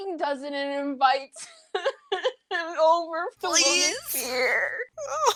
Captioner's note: breaks off into crying